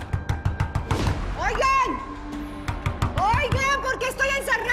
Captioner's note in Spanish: Golpes